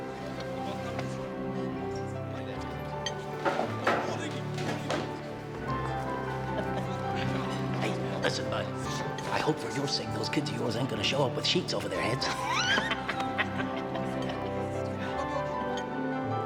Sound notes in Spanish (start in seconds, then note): 11.9 riendo